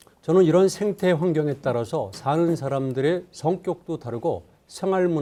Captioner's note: speaking in Korean